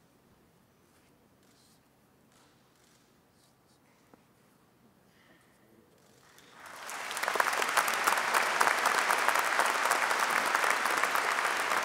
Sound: applause

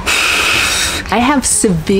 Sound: sighs

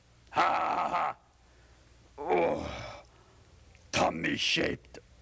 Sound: laughing

